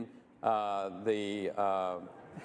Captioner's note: laughter